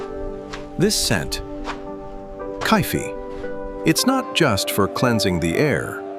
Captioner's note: cloth whooshes